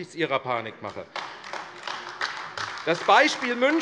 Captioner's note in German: Beifall AfD